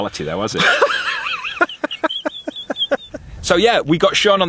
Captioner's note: laughing